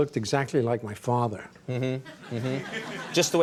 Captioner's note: audience laughing